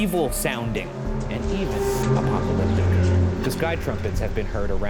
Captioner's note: metal screeches